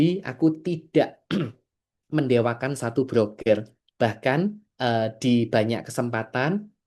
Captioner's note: berdehem